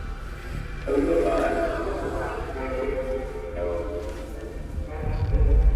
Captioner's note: suspenseful music playing; distorted speaking